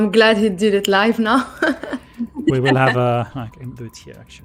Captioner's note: laughs